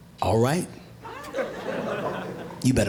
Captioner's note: audience laughing